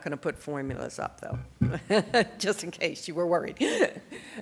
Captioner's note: laughs